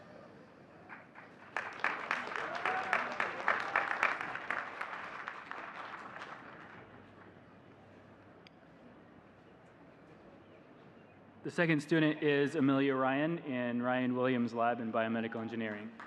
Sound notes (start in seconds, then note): 1.5 audience cheering and clapping